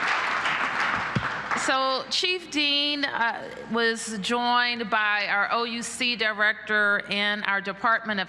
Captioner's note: applause